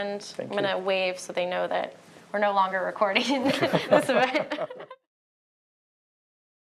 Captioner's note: laughter